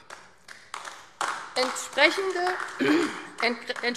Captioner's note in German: Beifall AfD